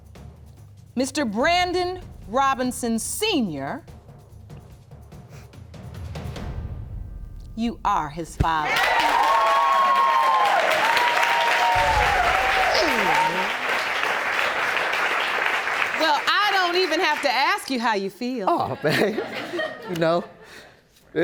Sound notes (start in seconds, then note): 7.4 audience cheering; 18.7 audience chuckle